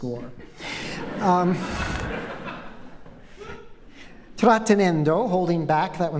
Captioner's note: laughter